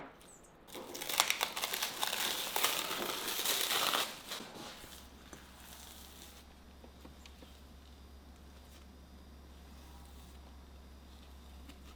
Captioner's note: folding